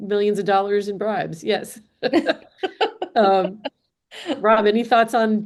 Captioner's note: laughs